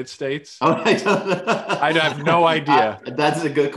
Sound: laughs

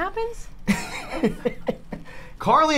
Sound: laughs

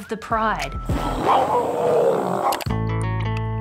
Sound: roars

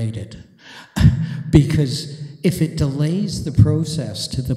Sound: chuckles

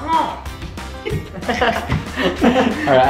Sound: laughing

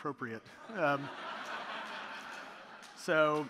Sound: audience laughing

